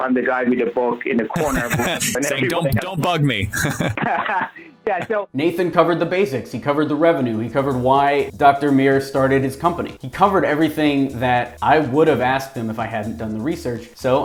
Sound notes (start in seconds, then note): 1.3 laughing